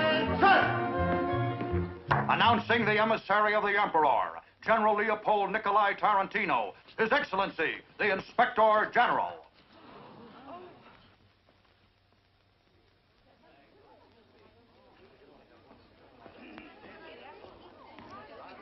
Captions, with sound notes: - Attention! Announcing the Emissary of the Emperor. General Leopold Nikolai Tarantino, His Excellency, The Inspector General. (chattering)